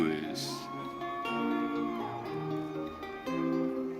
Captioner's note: audience cheering